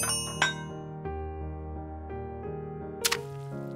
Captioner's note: dishes clank